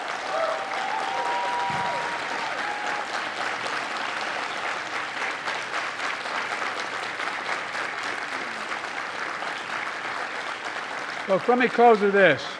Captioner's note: applause